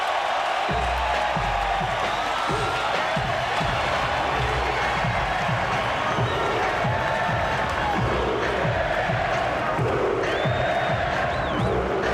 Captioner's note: applause